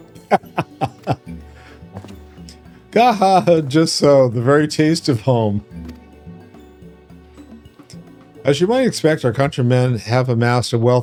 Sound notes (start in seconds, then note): 0.2 laughing